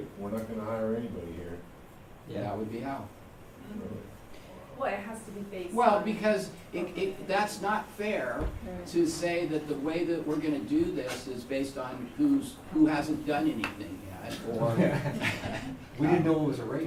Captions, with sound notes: We're not going to hire anybody here." >> Yeah, that would be how. 23:14 >> Well, it has to be based on -- >> -- Well, because it -- that's not fair to say that the way that we're going to this is based on who's -- who hasn't done anything yet, or -- [ Laughter ] >> We didn't know it was a race.